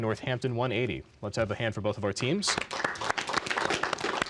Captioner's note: applause